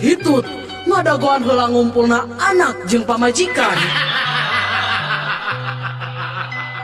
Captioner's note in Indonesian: tertawa